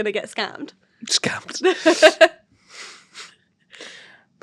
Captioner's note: laughs